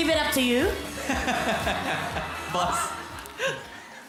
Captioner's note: robi laughs